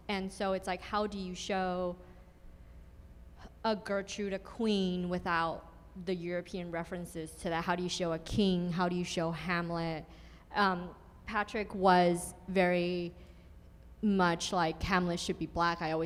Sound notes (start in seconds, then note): none